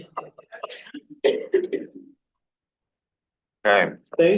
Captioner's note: laughs; coughs